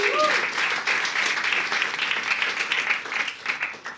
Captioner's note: audience cheering